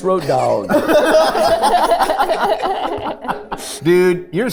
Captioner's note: group laughing